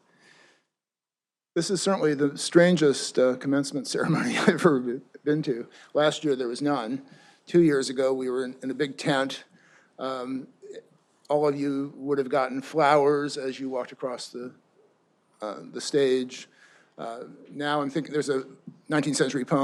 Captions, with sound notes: This is certainly the strangest commencement ceremony (chuckles) I've ever been to. Last year, there was none. Two years ago, we were in a big tent. All of you would have gotten flowers as you walked across the stage. There's a 19th century poem